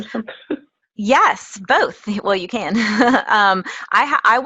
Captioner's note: laugh; laugh